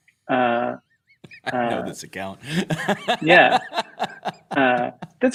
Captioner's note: laughter